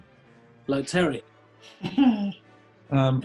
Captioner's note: laughs